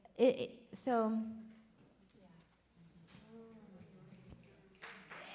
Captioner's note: audience applaud